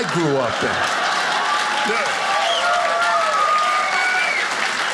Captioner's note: audience applauding